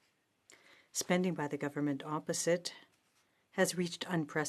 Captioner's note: speaking in French